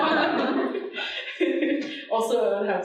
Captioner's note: audience laughing